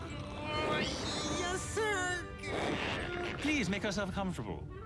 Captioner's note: grunts